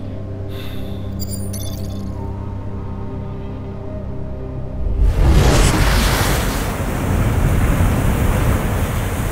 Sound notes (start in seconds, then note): 3.7 ambient music; 4.9 waves crashing